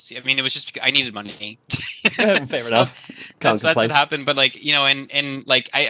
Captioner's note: laughs